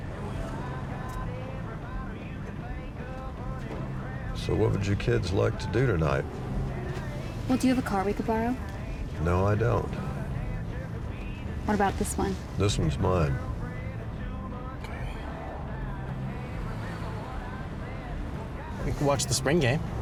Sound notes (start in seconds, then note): 14.2 quietly; 16.1 singing